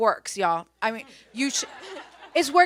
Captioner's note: audience laughs